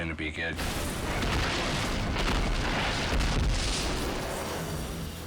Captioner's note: snowmobile crashing